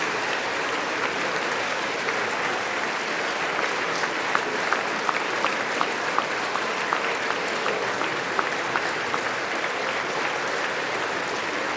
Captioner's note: applause